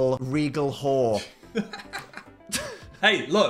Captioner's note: Phil laughs